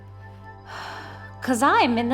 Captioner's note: exhales